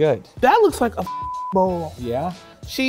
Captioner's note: beep